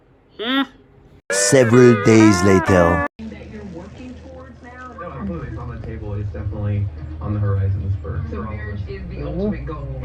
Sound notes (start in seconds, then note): 3.1 "Entertainment Tonight" plays on TV in background; 9.7 TV continues playing